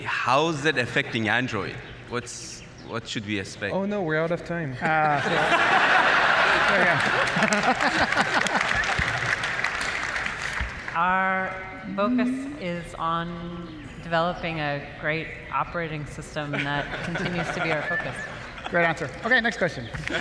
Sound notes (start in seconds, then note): 4.8 laughter; 20.0 laughter